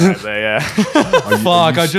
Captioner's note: laughing